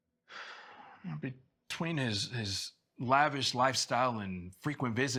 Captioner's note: sighs